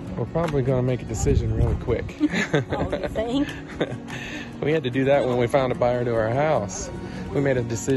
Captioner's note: laugh